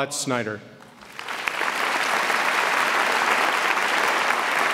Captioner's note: audience applauds